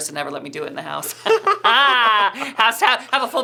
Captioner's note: laughing